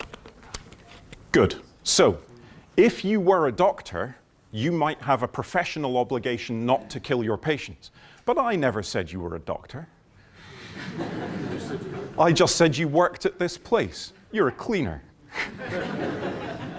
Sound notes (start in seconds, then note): 10.6 laughter; 15.3 laughter